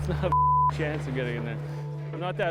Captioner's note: beep